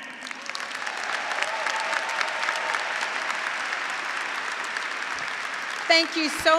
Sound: graduates and faculty applauding

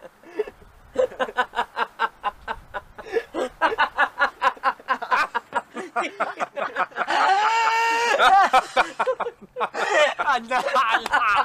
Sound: all the mice pause then start laughing again

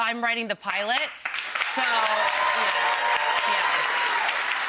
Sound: applause

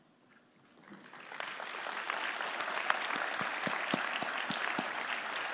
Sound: audience applauding

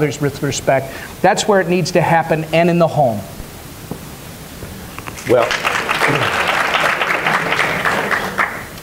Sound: applause

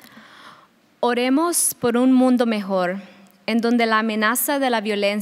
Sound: speaking a foreign language

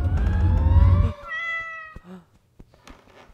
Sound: cat meows

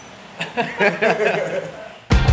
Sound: laughs

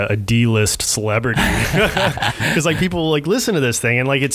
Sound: laughing

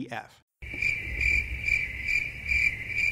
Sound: crickets chirping

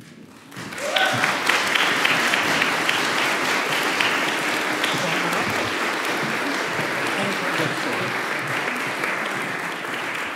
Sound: applause

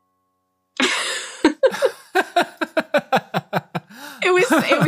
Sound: laughs

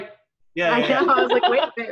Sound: laughing

